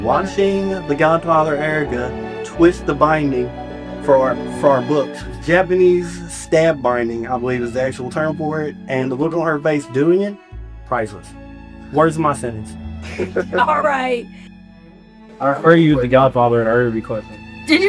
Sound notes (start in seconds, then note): 13.0 laughs; 14.5 sarcastic